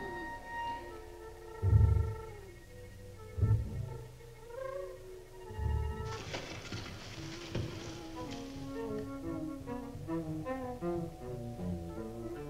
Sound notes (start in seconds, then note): 5.5 rustling